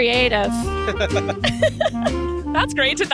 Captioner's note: both laughing